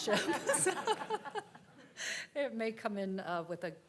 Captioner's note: participants laughing